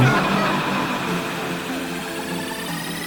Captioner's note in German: verzerrtes Lachen